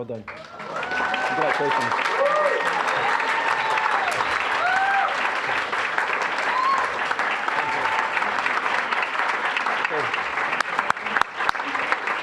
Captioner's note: applause, cheering; applause